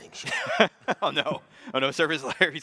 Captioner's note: chuckles